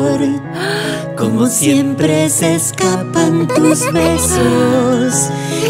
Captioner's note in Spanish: Risas